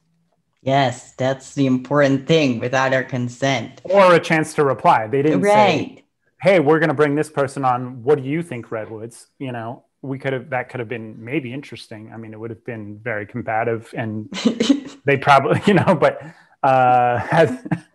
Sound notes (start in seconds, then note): 13.9 laughs; 17.1 laughs